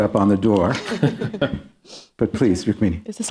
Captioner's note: chuckling